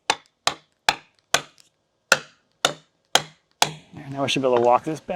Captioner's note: rhythmic tapping